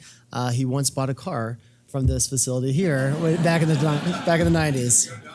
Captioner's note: laugh